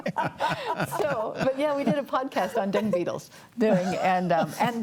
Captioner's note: panelists laughing